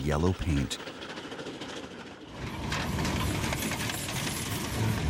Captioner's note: train engine revving